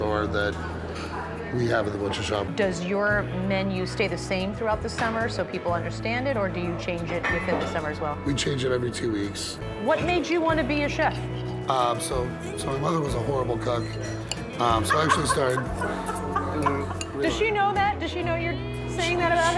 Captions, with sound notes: that we have in the Butcher Shop. -Does your menu stay the same throughout the summer so people understand it, or do you change it within the summer, as well? -We change it every two weeks. -What made you want to be a chef? -So, my mother was a horrible cook. So I actually started -- -[ Laughs ] Does she know that? Does she know you're saying that about her?